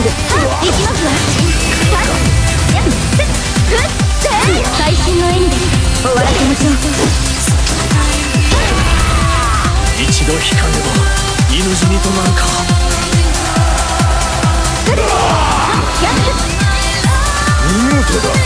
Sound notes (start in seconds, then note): 8.1 drops bomb; 8.6 crit scream